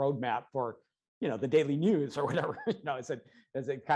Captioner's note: laughs